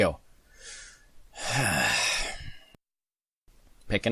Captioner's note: sighs